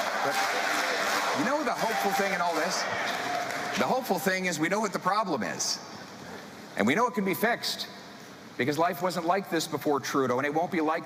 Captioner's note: applause; chanting